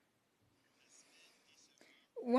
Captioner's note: speaking in French